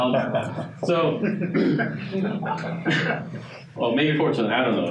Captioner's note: audience chuckling